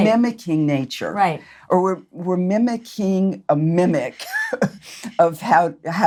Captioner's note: laughs